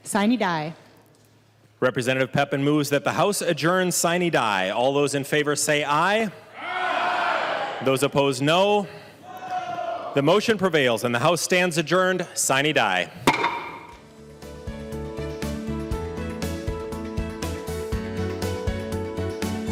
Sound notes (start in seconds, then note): 12.5 chorus of ayes